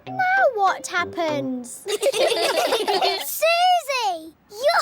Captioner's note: all giggling